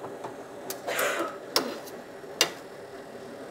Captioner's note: coughing in the background